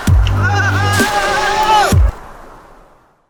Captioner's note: yelling